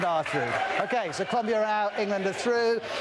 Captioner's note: cheers and applause